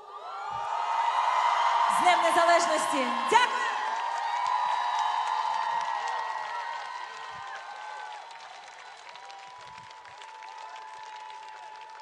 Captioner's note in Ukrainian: Оплески